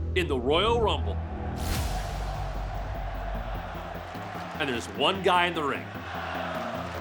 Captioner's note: applause